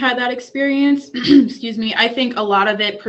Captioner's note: clears throat